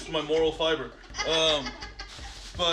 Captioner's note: laughing